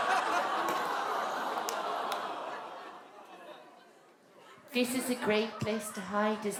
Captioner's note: awwws from the Audience; little girl's voice